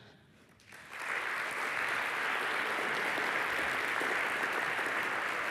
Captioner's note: applause